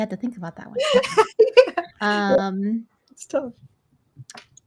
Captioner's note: laughs